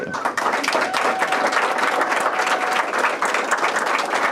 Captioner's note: applause